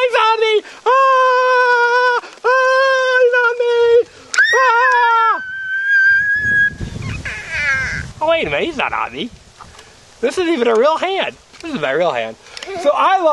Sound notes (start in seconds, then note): 1.5 shouting; 4.3 scream